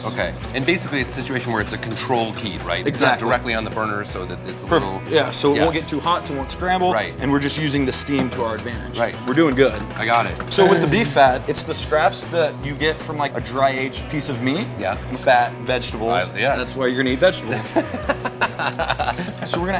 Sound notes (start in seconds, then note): 10.4 groans; 17.5 laughs